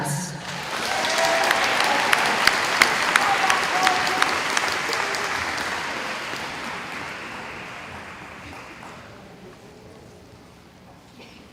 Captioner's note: applause